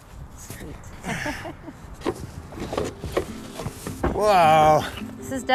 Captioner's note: laughing